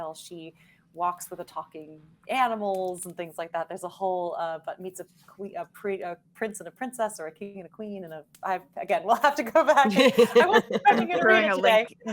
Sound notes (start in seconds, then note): 9.8 all laughing